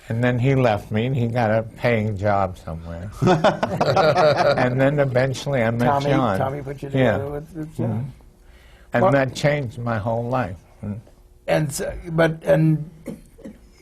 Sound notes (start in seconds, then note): 3.2 laughter